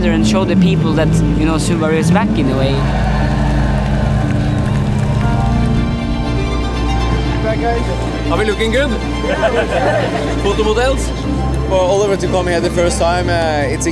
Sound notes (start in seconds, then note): 5.6 upbeat dramatic music; 9.1 laughing